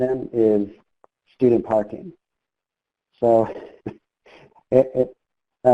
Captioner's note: chuckles